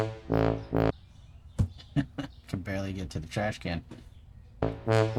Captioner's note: laughing to self